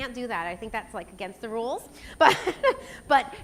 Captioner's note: laughs